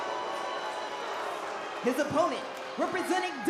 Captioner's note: crowd boos